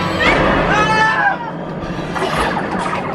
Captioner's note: screaming